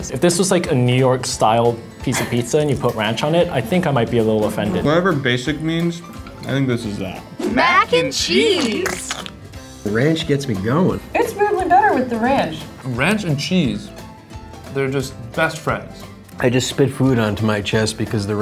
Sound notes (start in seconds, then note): 7.8 voiceover; 8.8 squirting